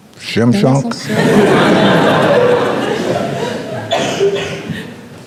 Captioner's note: crowd laughing